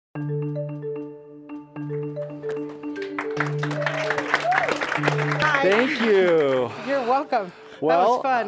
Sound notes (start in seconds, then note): 0.1 bright music; 2.4 audience applauding